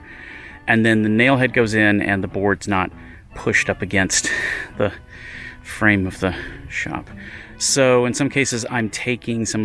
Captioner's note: sigh